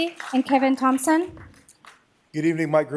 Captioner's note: applause